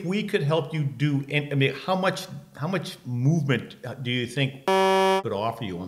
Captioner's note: beep